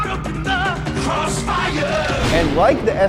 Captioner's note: thundering